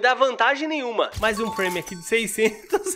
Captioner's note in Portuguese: risos